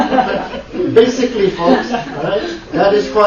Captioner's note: laughter